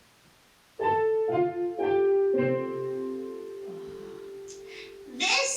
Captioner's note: ding dong bing bong